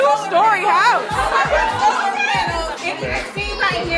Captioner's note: guests chatter